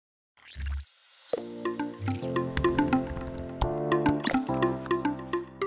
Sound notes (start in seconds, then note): 1.4 upbeat music; 1.6 digital tone; 2.5 keyboard clicks